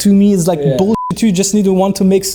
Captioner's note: beep